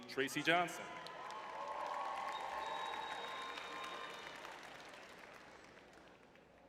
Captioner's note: crowd cheering